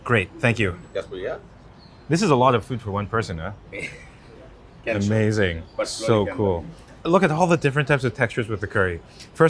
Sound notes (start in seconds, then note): 3.7 speaker in blue chuckles